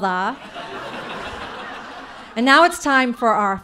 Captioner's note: audience laughing